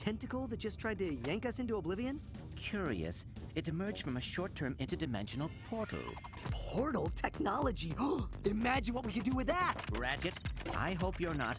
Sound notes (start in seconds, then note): 7.9 gasps